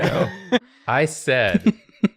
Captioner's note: laughing